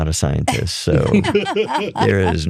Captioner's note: laughter